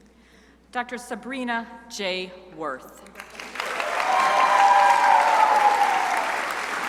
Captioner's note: crowd applauding